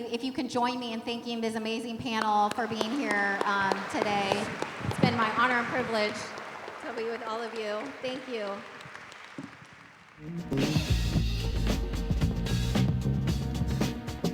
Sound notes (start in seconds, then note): 8.6 applause